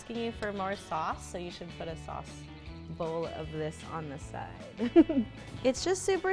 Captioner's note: laughs